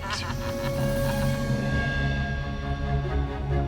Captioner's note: laughing